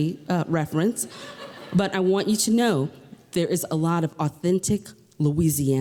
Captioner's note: laughter